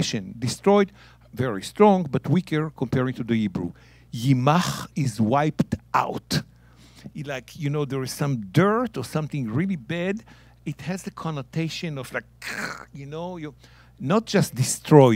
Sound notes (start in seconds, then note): 4.0 speaking in Hebrew